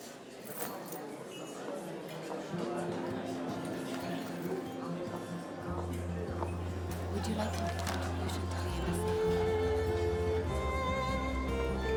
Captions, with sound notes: (people chatting) (soft music) Would you like to make a donation?